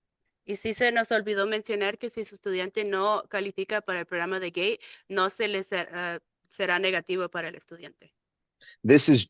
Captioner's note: speaking in Spanish